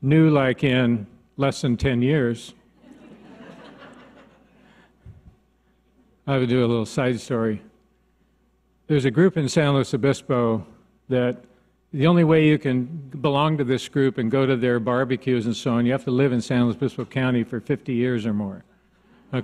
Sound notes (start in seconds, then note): 2.8 audience laughs